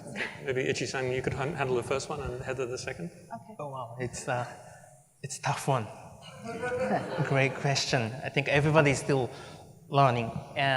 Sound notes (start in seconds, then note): 6.4 laughter